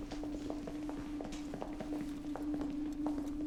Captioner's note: none